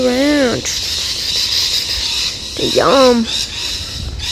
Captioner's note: birds screeching crescendos